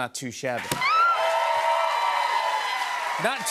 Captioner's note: cheers and applause